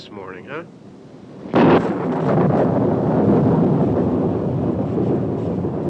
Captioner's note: loud thunderclap